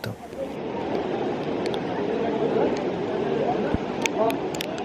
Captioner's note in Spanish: sonido de termas y agua-nieve cayendo